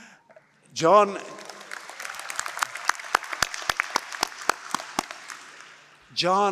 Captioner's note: applause